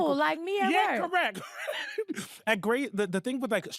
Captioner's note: laughing